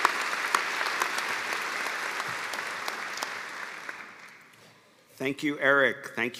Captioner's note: applause